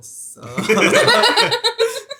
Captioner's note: laughing